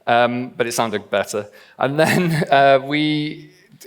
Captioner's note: laughs